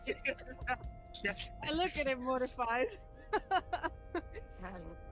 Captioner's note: giggles; laughs; laughs